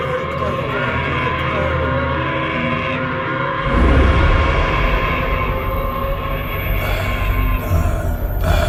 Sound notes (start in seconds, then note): 0.0 voices echo; 0.8 demon screams; 5.6 voices echo